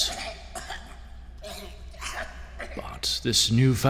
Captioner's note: coughing intensifies